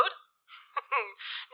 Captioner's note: A chuckle